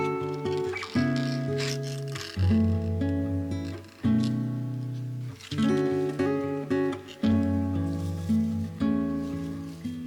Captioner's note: flickering